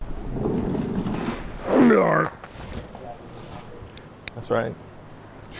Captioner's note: engine revving